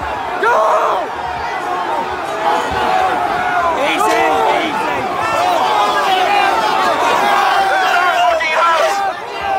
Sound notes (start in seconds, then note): 5.1 crowd yelling